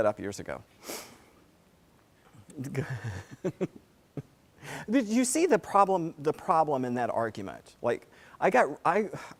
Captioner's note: laugh